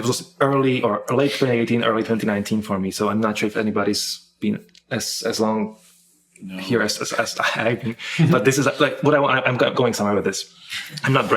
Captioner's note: laughing